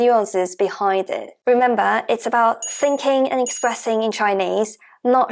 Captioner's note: Mandarin